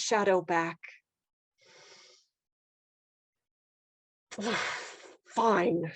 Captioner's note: breath